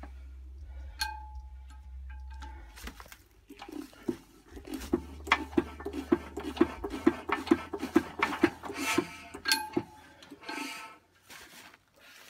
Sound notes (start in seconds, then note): 3.6 clunka clunka clunka clunka ting whoosh woosh